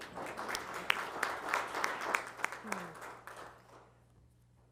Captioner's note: applause